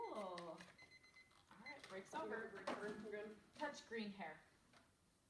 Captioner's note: timer beeping